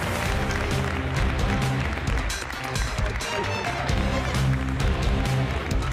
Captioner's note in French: applaudissements